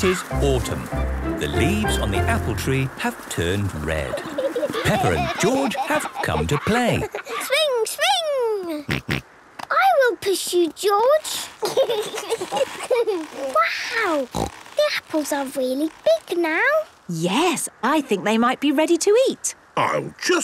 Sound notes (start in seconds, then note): 4.0 laughter; 9.2 snorting; 11.4 kids giggling